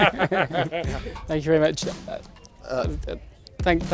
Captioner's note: laughing